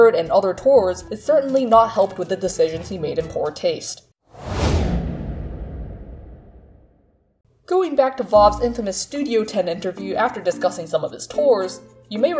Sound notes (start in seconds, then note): 4.3 whooshing